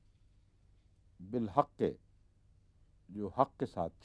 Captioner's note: Arabic